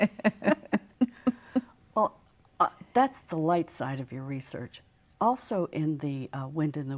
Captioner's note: laughter